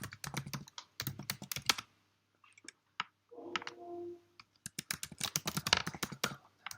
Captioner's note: types keyboard